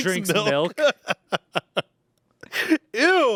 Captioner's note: laughs